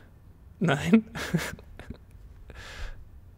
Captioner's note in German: lacht